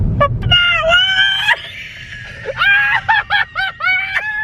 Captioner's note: crows; both laugh